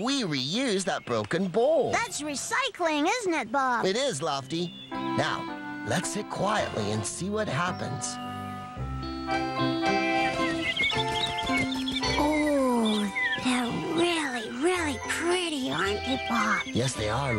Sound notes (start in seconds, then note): 11.0 birds Chirping; 12.7 whispering